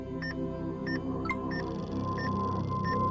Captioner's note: electronic chime; EKG machine beeping